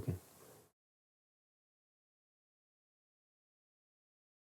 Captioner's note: silence